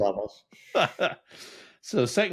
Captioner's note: laughs